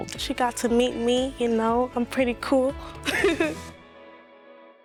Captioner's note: laughing; upbeat music